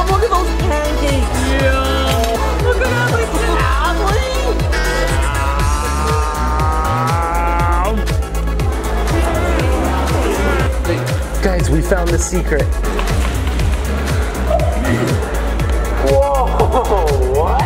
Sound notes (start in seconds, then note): 4.6 makes silly noise; 13.3 upbeat music